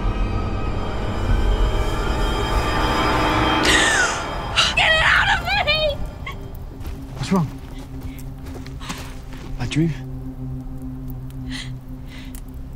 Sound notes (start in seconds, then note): 3.8 Ren gasps